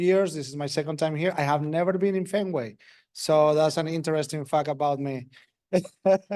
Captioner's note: laugh